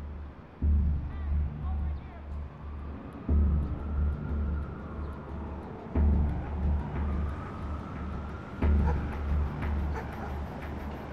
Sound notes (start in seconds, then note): 0.5 shouting in distance; 2.1 distant sirens wailing; 8.0 dog barking